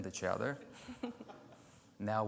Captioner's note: chuckling; audience chuckling